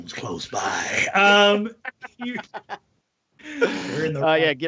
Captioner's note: laughing